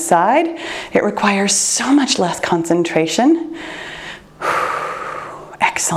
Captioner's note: breathes deeply